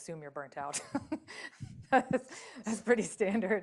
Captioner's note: laughter